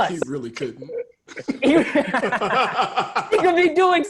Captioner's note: laughter